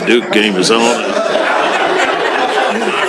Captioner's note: laughter